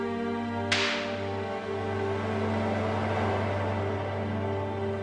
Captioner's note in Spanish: Disparo